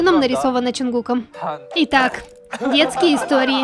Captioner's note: ahem